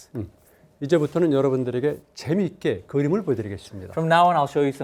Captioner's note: speaking in Korean